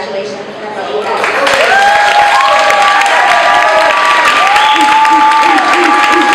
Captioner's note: applause